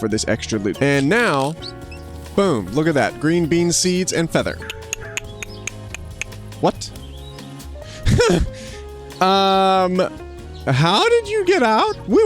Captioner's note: hamster squeaking; laughs